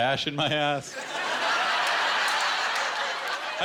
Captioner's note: laughter